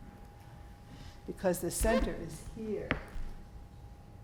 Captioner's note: floor squeaking